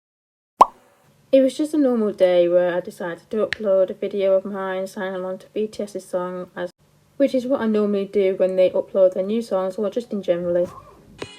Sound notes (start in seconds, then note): 0.6 pop